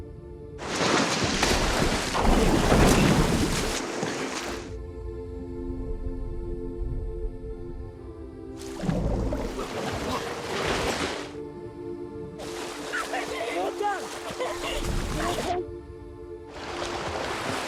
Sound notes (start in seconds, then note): 0.6 water splashing